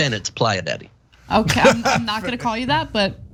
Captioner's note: laugh